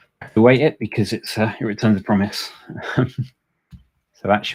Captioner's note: chuckles